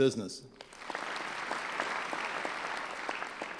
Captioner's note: clapping